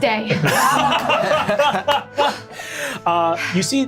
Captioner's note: laughing